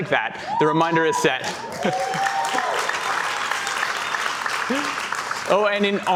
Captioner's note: cheers and Applause